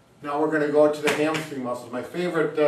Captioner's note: hand tapping